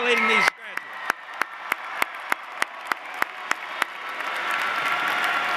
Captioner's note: cheers and applause